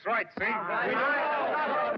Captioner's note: miners clamoring